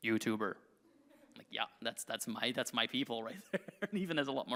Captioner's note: laughs